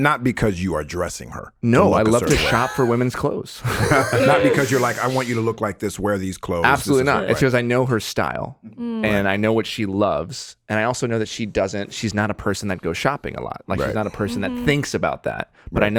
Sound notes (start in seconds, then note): 3.6 all chuckling